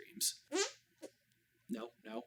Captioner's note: hand fart